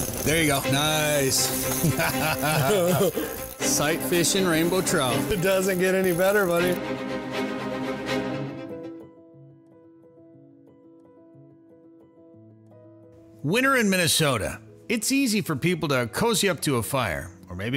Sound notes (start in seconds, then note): 1.8 laughs; 8.9 whimsical music